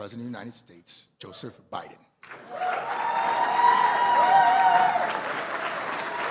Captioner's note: cheers and applause